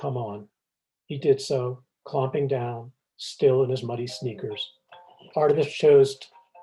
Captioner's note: phone ringing